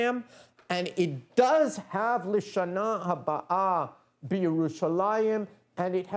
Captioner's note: non-english speech